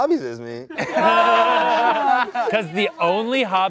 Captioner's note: everyone laughs